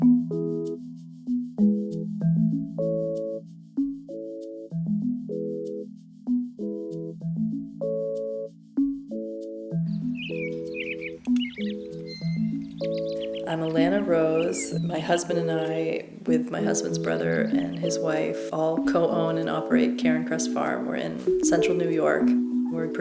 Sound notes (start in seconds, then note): 10.3 birds chirping